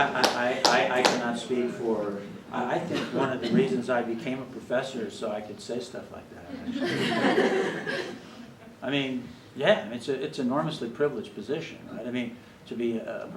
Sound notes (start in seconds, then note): 9.1 laughter